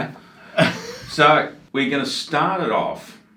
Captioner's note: laughs